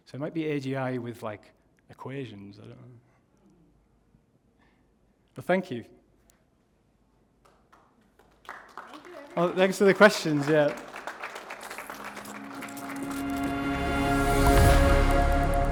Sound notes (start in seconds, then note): 7.2 applause; 12.0 audio logo